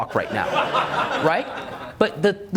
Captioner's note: audience laughs